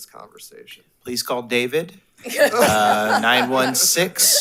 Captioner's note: attendees laughs